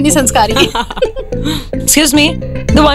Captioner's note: Ana and Vandy laughing